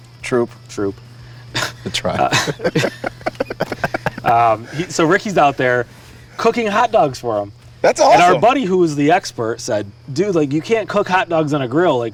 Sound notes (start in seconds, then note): 1.5 laughs; 1.5 people laugh